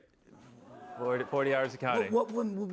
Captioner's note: audience exclaims